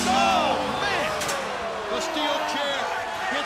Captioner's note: crowd cheering